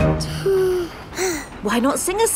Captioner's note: both sigh